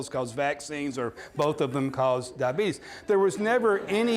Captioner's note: audience laughing